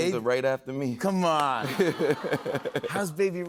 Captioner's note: laughs